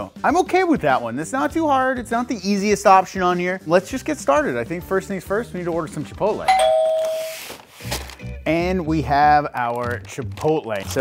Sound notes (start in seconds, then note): 6.5 doorbell ringing